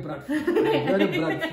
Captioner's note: laughing